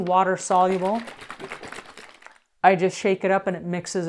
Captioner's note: smoothie sloshing